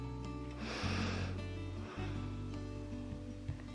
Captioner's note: inhales and exhales